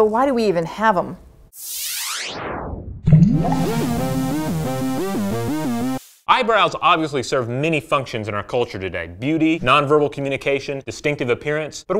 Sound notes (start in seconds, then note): 1.6 swooshing; 3.1 upbeat tune